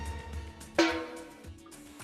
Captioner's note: pop